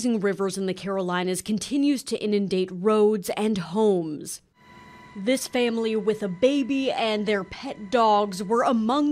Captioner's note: sound OF BOAT